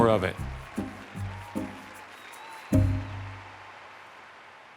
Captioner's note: cheers and applause continue